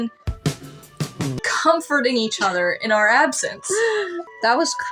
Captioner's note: laugh